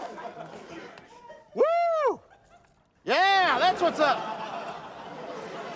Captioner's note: laughter